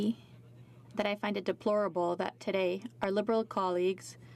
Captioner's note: speaking in french